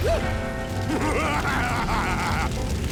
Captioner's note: evil laughter